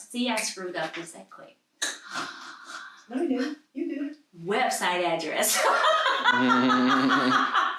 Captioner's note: laughs